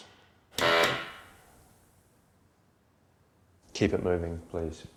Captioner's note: machine blaring